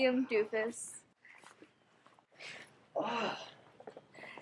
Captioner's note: groans